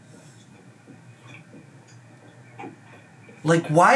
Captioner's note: jaw clicking